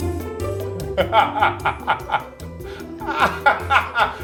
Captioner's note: upbeat music; laughing